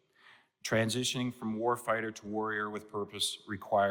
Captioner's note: speaker emphasizes